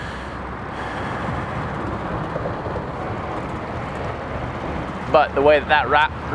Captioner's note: inhales and exhales